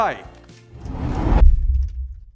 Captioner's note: whooshing sound